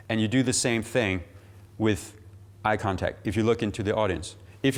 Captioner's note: none